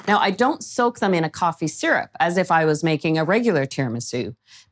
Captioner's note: none